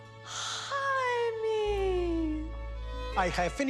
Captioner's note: gasps